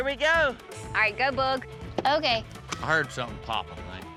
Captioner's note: thud